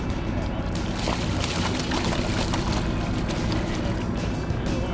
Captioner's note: fish splashing water